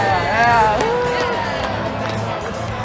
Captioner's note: cheering